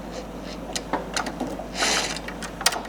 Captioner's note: creaking noises